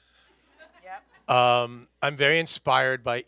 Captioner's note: panelist laughs